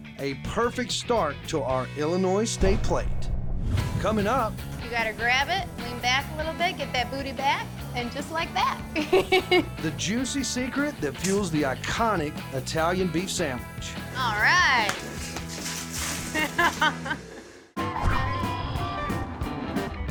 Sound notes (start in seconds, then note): 8.9 giggling; 14.6 stones scattering